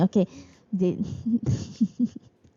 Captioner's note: laughs